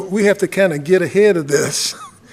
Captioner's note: laughter